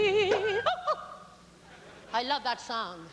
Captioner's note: cork pops